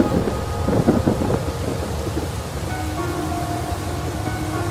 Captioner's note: thunder cracks